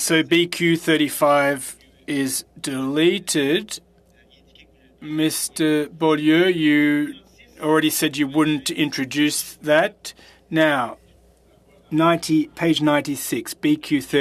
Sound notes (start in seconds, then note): 4.0 speaking French